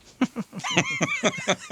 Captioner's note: laughing